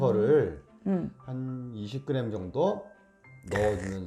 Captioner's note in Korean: 캬아~~~~